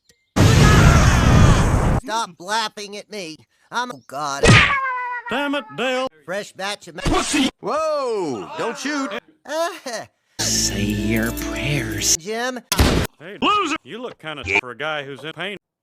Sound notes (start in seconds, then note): 4.4 Yoshi Screams In Pain; 8.3 Dale Laughs Nervously; 12.7 gun Shoot